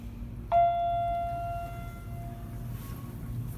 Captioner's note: elevator Chimes